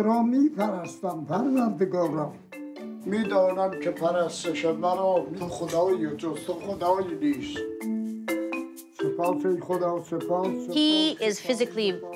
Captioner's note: speaking foreign language